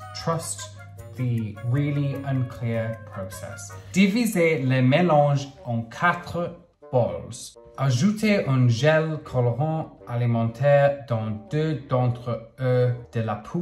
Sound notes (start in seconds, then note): 4.1 speaking in foreign language